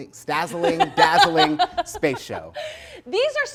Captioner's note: laughing